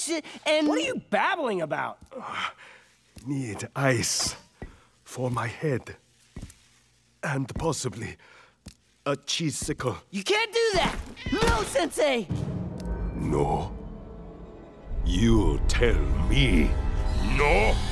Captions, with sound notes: What are you babbling about? [grunting] Need ice... for my head... and possibly... a Cheesicle. You can't do that! No, Sensei! No? You tell me no?